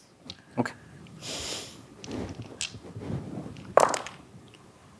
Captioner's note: dice rattling; dice rolling